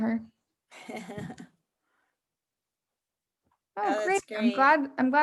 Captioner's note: chuckles